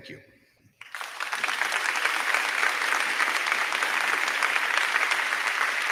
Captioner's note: crowd clapping; crowd cheering